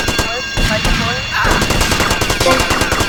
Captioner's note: gunshots